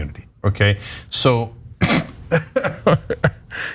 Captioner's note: cough